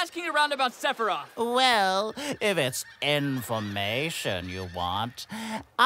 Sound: deep breath

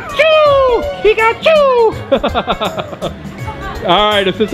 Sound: laughs

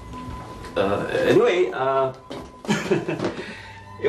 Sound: chuckles

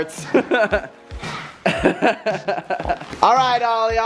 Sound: laughing

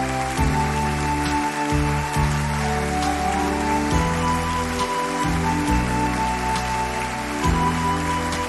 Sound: applause

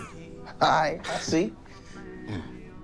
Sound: laughing

